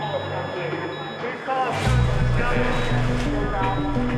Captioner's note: various surgery sounds and chatter